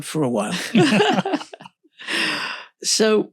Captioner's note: laughs